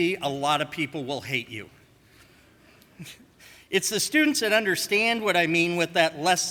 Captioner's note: none